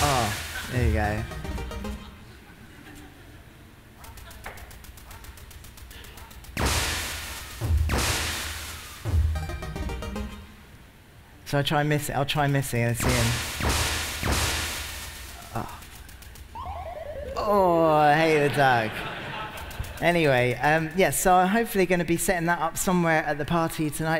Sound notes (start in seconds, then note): 9.1 electronic music; 13.0 bangs and crashes and electronic music